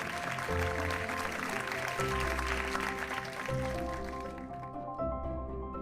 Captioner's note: audience applauding; gentle upbeat music